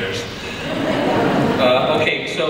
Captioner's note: audience laughs